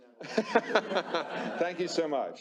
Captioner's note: laughter